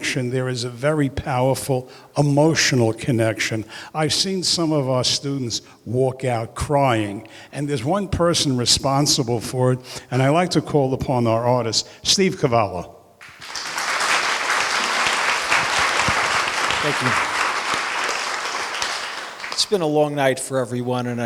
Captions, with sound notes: there's a very powerful emotional connection. I seen some of our students walk out crying, and there's one person responsible for it. And I'd lie to call upon our artist, Steve Cavallo. (applause) - Thank you. It's been a long night for everyone,